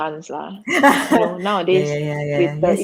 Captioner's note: laughs